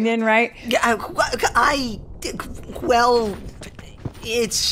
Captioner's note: stuttering